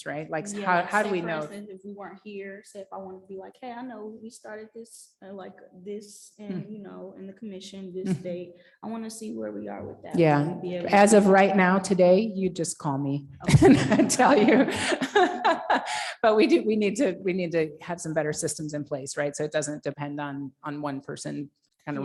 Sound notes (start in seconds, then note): 13.4 chuckling